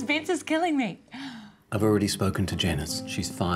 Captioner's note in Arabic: لورا تلهث